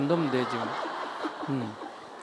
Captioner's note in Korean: 청중웃음